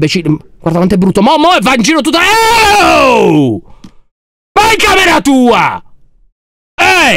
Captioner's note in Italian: urla